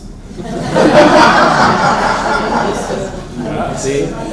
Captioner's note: laughter